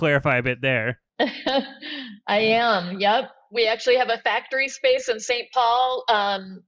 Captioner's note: laughs